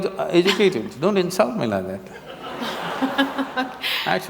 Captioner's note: laughter